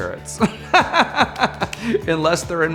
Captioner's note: laughs